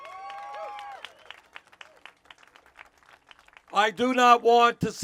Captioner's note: cheers